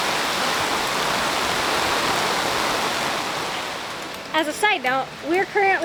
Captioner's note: rain pouring